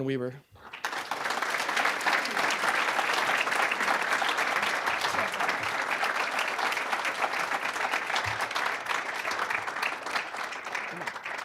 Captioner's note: applause